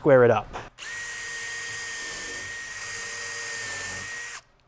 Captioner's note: drill whirring